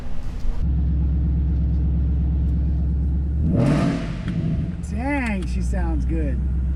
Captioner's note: car engine revving